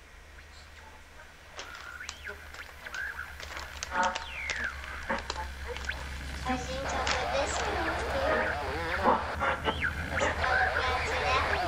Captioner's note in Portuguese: busca de radio frequência + vozerio